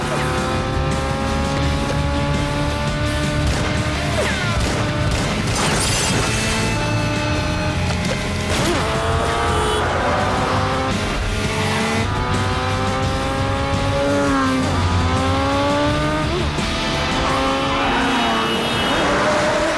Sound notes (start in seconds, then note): 8.2 honking; 16.8 honking